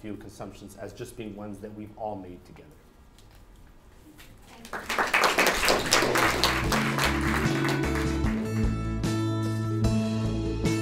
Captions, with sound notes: consumptions as just being ones that we've all made together. [audience applauses] [credit music plays]